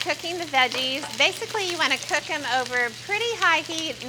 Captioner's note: sizzling